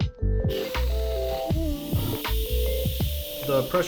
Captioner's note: hissing